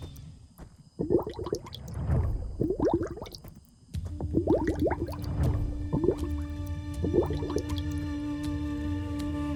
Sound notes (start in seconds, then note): 0.9 energy swirling; 8.1 mystical music playing